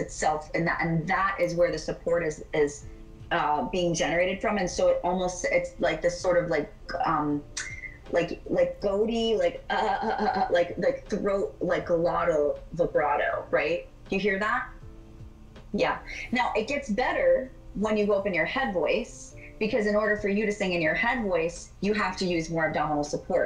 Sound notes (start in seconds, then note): 8.9 stutters